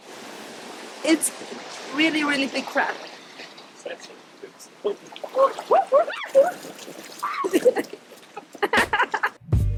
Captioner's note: laughter